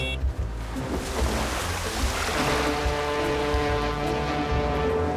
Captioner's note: <i> foghorn blowing</i>